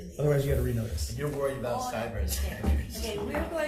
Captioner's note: laughing